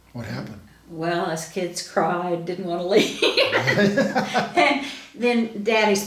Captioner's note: laughs